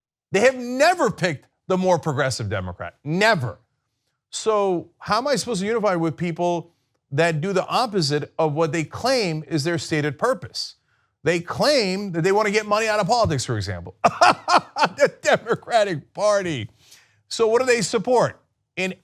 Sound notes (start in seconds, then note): 14.0 laughter